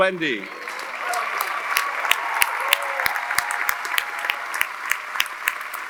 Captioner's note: audience applauding; audience cheering